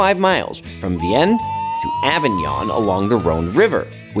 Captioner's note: slide whistle blows